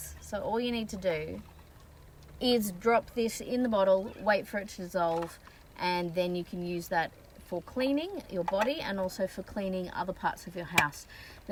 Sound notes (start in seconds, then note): none